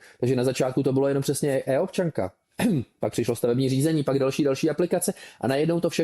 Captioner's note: clears throat